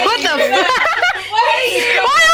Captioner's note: laughter